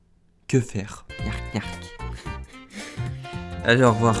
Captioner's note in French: niark niark